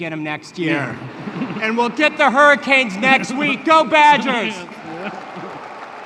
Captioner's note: laughter; applause